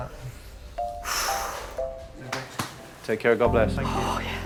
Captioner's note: exhaling